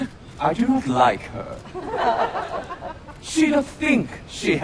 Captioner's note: laughter